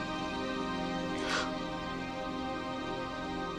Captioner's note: struggles to breathe